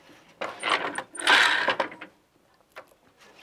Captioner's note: noise of shuttle moving